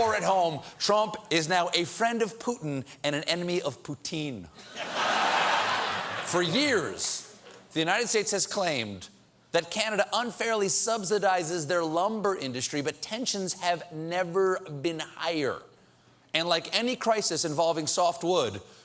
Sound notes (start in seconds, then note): 4.6 laughter